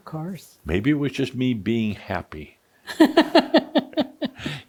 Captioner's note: laughs